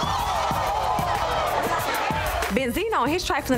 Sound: crowd gasping

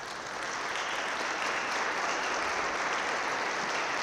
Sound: audience claps

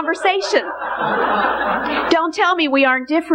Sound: congregation laughing

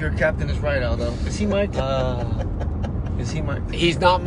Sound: chuckling

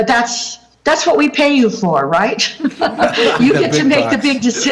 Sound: laughter

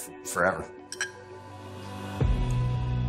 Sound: glasses clink

